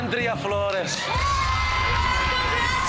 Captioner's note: crowd cheering